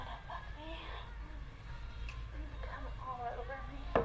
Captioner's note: gementando